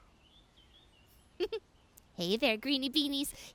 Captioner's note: giggles